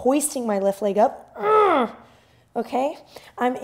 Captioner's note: groans